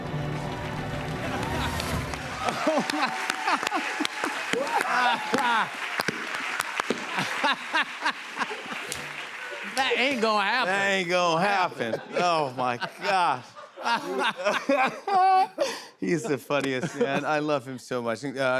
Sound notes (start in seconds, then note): 0.1 cheers and applause; 2.3 laughs; 13.6 laughter